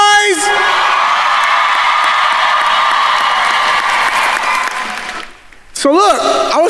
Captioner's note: attendees cheering and applauding